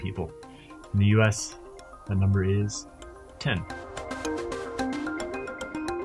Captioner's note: voiceover